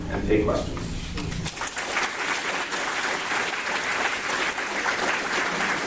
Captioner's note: applause